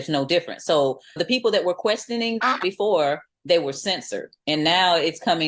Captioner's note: quack